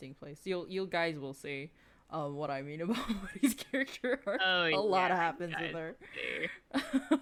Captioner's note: laughs